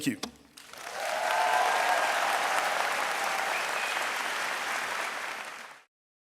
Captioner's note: audience applauding and cheering